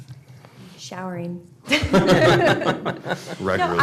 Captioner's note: laughter